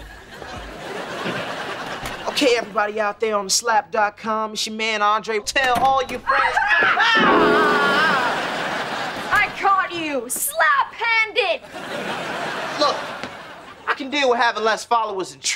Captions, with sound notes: Okay, everybody out there on TheSlap.com, it's your man, Andre. Tell all your friends-- [screaming] I caught you Slap-handed. Look, I can deal with having less followers than Trina,